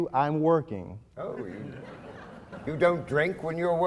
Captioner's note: laughing